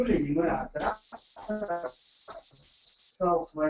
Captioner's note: interference